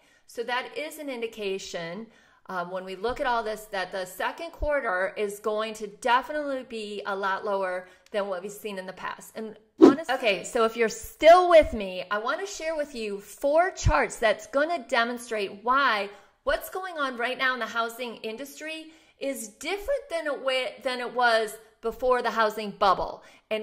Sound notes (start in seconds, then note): 9.8 whooshing